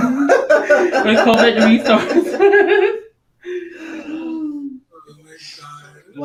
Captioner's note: group laughs; laughs